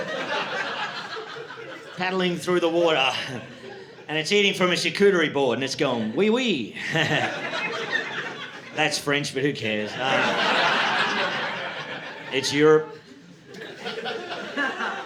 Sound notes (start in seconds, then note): 0.0 audience laughing; 6.7 audience laughing